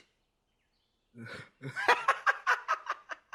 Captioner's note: guffawing out loudly